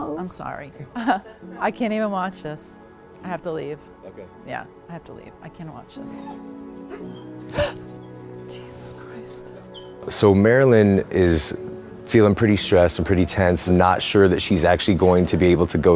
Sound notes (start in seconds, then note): 0.8 laughs; 6.8 gasps